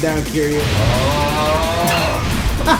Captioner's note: aaauuughhh